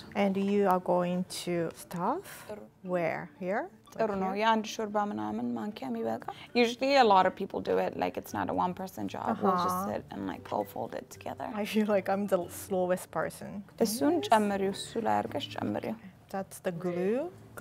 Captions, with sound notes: - And you are going to stuff, where, here? - (speaking Amharic) - Usually a lot of people do it, like it's not a one person job. We just sit and all fold it together. - I feel like I'm the slowest person. - (speaking Amharic) - That's the glue?